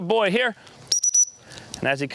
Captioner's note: whistle blows